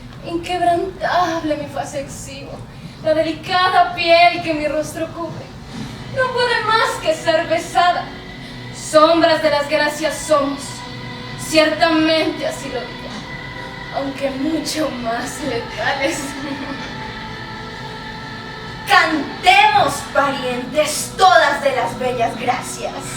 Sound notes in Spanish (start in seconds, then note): 16.8 Ríe